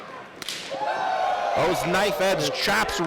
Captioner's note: slapping sounds